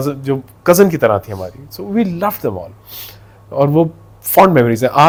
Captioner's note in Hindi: नाक से की जाने वाली आवाज़